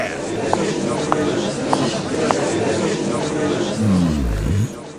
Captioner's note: gallery chattering